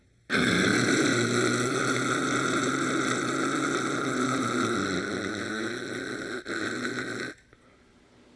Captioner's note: gargles loudly